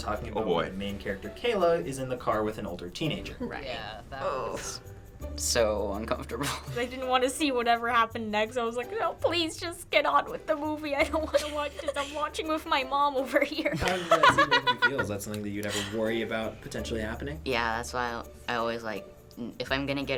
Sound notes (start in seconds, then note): 13.6 laughing